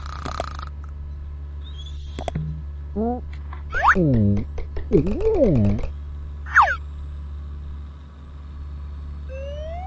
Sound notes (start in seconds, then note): 4.0 Kinito mumbling